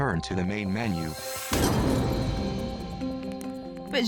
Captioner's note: glass cracking